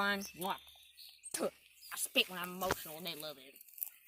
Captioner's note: spits